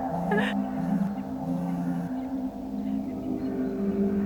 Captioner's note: cellphone vibrating